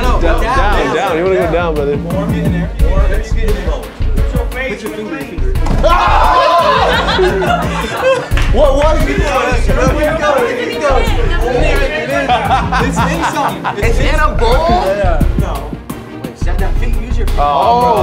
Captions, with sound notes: - Down. You wanna go down, brother. - More, getting there. More. - Ah! (all laugh) What was it? - Keep going, keep going. (man laughs) - It's in something. - It's in a bowl? - Yeah. - No.